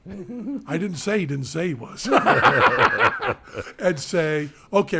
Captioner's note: group laughing